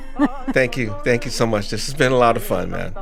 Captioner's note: laughter